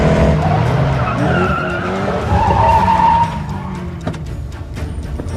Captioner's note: brakes screeching